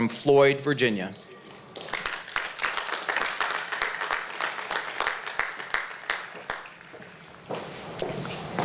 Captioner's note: applause